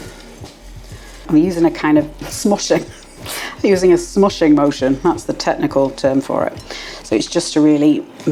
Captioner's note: laugh